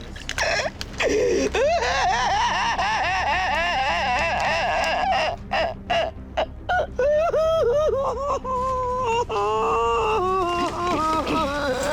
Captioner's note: sobs